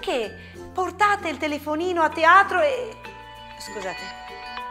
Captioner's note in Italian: squillo telefono